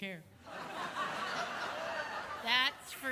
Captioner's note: audience laughs